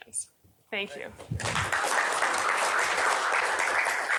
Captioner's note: applause